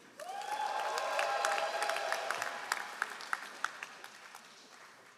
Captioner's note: all applauding